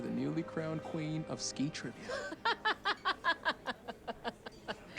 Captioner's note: laughing